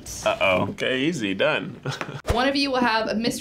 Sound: chuckles

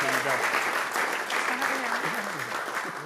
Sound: applause

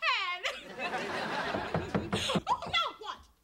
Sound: knock knock

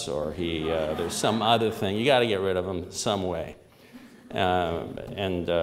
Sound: laughter

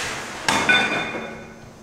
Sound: clang

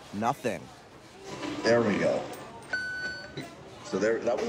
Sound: machine beeps

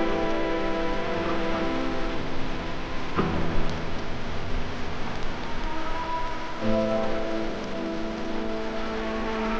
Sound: water, nature sounds

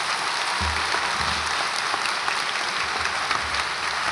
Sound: audience applauds

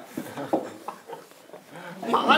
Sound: flustered, Laughing

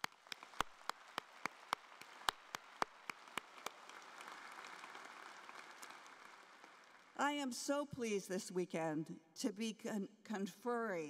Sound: applause

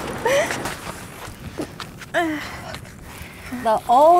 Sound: grunting

